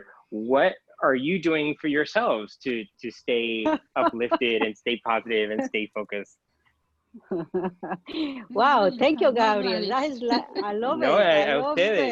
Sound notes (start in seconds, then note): 3.9 laughing; 10.1 laughing; 10.4 speaking in a foreign language